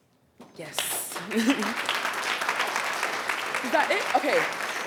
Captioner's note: attendees applauding